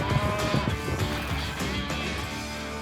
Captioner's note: steer moos